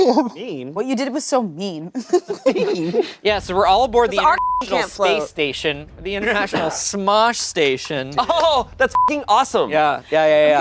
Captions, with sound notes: - Mean? - What you did was so mean. - Mean? - Yeah, so we're all aboard the- - 'Cause our (beep) can't float. - Space station. The International Smosh Station. - Oh, that's (beep) awesome. - Yeah, yeah, yeah, yeah.